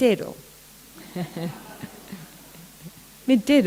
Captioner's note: laughter